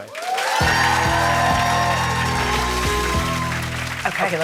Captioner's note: cheers and applause